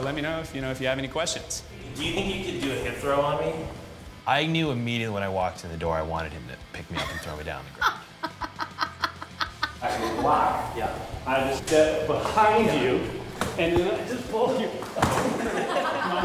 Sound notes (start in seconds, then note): 8.5 laughing